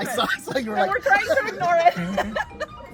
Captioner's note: while laughing